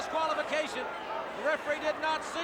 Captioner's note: crowd cheering